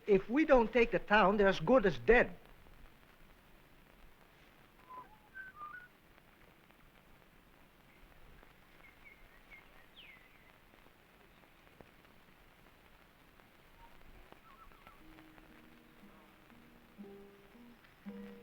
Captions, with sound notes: If we don't take the town, they're as good as dead. [BIRDS CHIRPING] [SENTIMENTAL MUSIC]